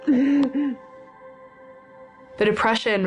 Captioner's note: panting